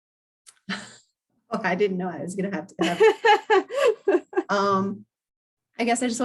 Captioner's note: laugh